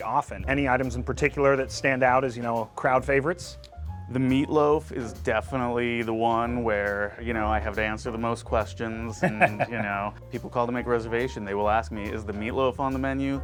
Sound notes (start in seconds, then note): 9.2 laughs